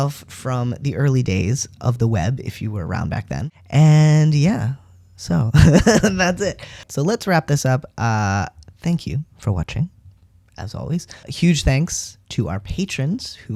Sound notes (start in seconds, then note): 5.6 laugh